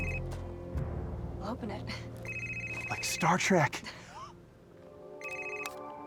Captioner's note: suspenseful music continues; laughs; gentle music